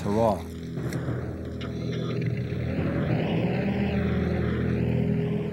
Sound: engine rumbling

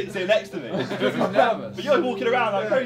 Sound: all laughing

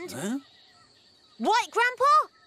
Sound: gulps

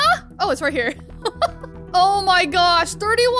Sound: laughs

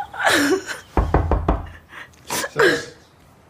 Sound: knock on door

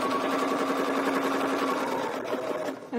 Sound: sewing machine whirring

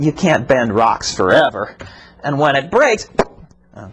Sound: pop sound

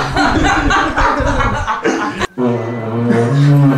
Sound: laughes

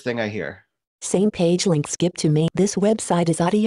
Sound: automated Voice

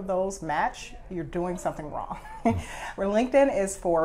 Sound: laughs

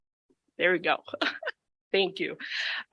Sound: chuckles

